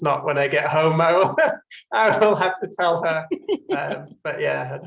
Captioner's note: laugh